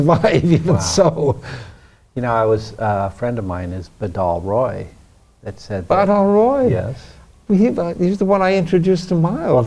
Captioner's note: laughs